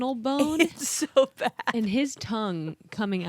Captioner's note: laughs